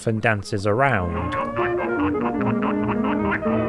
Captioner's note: quacking